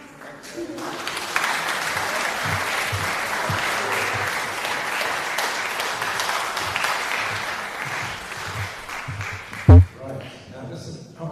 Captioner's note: applause